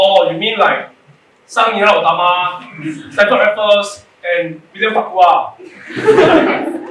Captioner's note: mispronounces